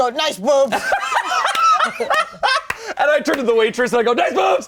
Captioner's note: all laughing